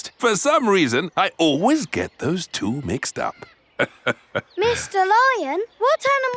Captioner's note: laughs